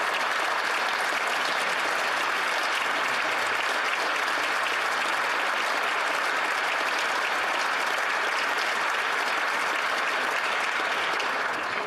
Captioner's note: applause